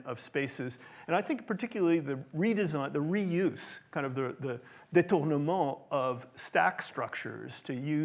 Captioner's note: french